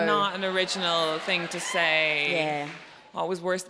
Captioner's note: audience cheering